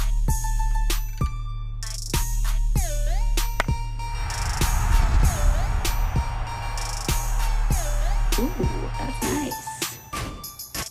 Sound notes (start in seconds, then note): 3.4 baseball bat cracks; 4.1 crowd roars